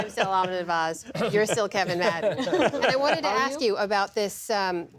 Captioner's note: laughter